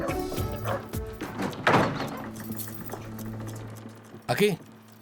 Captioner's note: dramatic music; door clangs